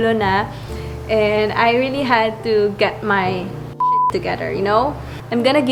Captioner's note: beep